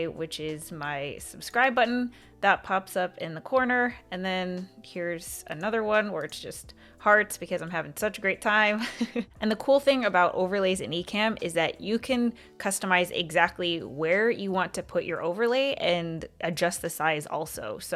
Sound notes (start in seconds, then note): 8.8 chuckles